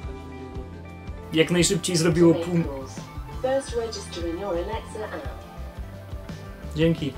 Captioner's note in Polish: jakieś powiadomienie w tle